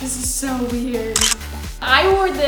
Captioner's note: camera clicking